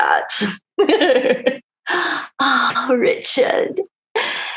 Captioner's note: laughing